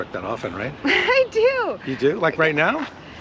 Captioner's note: Nicole laughs